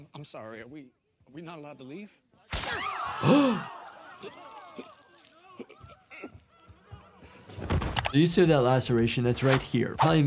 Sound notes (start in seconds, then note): 2.8 crowd and gasping; 3.2 person gagging; 7.6 body thuds